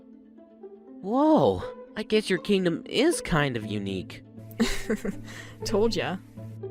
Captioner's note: snickers